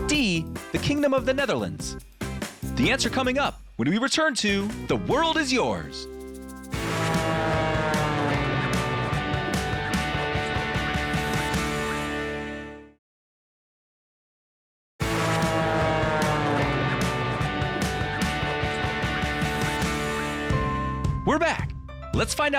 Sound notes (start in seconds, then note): 6.6 upbeat rock music; 6.7 plane engine roaring; 15.0 upbeat rock music; 15.0 plane engine roaring